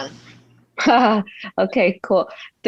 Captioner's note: laughing